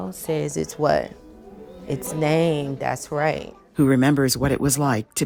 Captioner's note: children conversing